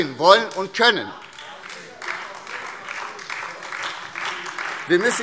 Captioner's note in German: Beifall SPD, DIE LINKE und AfD